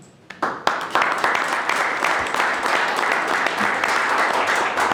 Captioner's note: audience applauding